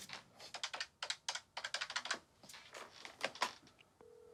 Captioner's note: dialing phone